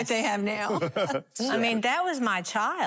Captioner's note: laughter